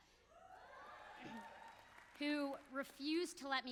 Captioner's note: audience cheers